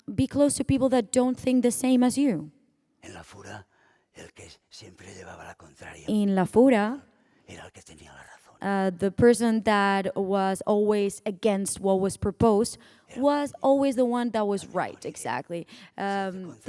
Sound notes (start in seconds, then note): 3.7 speaking spanish